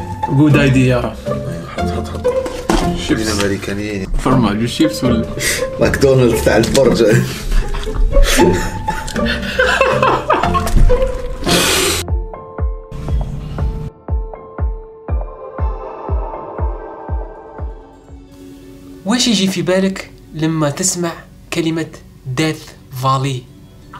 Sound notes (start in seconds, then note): 8.8 laughter